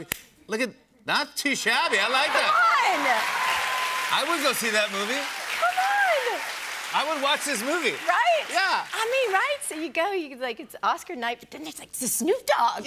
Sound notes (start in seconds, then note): 1.8 cheers and applause